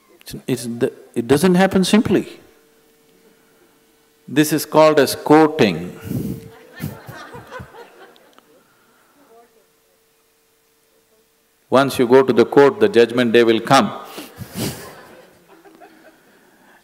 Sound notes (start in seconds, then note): 9.8 laughter; 14.3 laughs